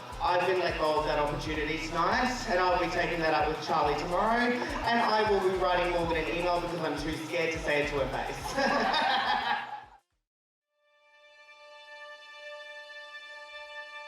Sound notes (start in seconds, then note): 8.4 everyone laughing; 10.9 soft music